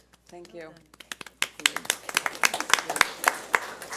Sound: board applauds

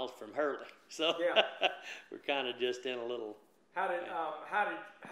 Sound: laughs

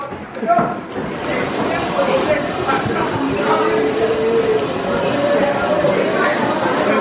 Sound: shouting and jeering

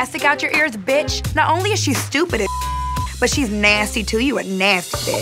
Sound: beep

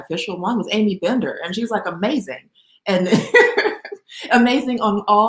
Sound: laughs

